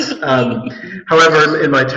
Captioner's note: laughs